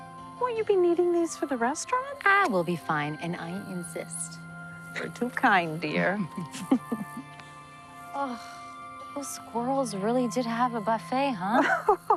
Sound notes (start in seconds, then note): 6.3 chuckling